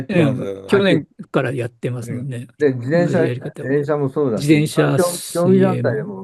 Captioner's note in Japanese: 咳払い